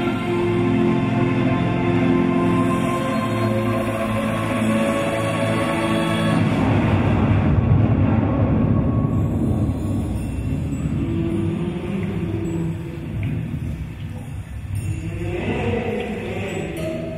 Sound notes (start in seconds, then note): none